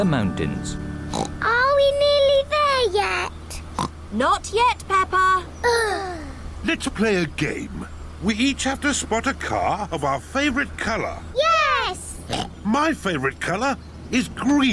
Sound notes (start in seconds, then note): 1.1 oinks; 3.7 oinks; 5.6 both sigh; 12.2 oinks